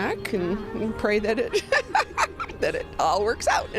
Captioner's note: laughs